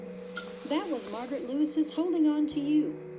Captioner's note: woman On Radio